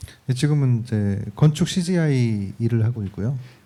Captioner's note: speaking korean